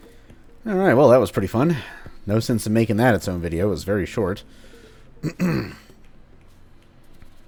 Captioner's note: clears throat